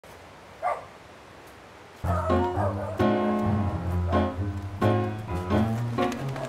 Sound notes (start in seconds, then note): 0.0 dogs barking; 2.0 upbeat instrumental music